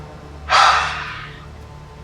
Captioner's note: sighs